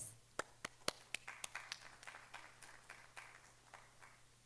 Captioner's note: audience applauding